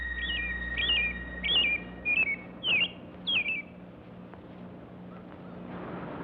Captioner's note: bird singing